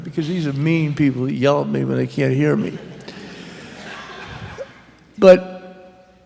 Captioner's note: laughter